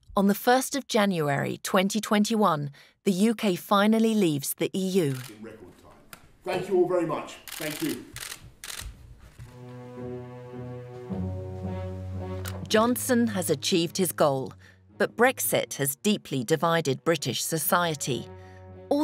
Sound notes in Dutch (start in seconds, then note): 7.3 camera's klikken; 10.0 langzame muziek